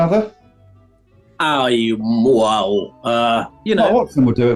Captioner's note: warbles